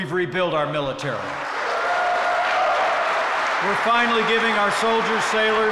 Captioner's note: applause